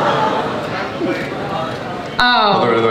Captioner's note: audience laughs; audience murmurs